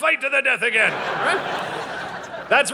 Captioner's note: audience laughing